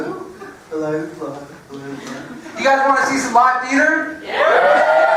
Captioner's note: laugh